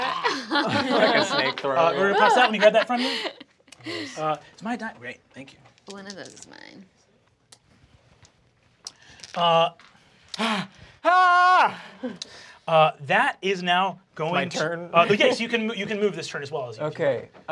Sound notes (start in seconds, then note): 0.0 groans; 11.0 screams